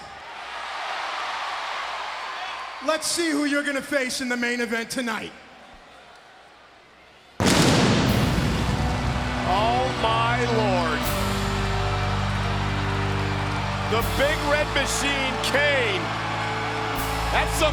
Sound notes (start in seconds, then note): 0.0 crowd cheering